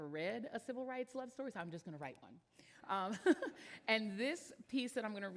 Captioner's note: laughs